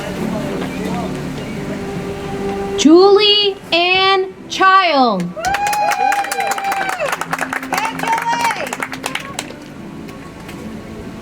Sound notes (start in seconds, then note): 5.3 audience applauds; 8.3 soft music